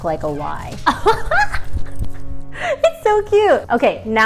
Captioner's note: laughs